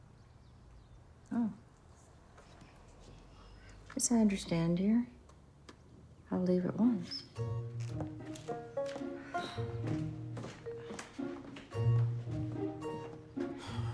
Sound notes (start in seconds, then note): 9.6 frustrated sigh